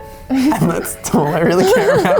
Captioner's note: laughs